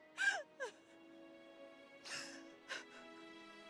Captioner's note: Masie crying